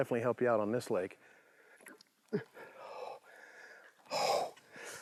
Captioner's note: grunts, gasps